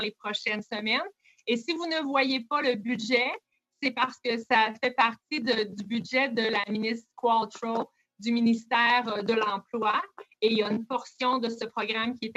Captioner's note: speaking French